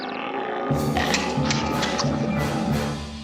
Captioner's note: birds tweeting; alligators growling